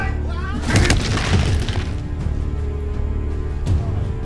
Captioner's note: thudding